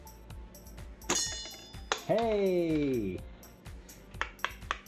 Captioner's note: ping